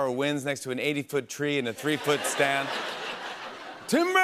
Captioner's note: laughter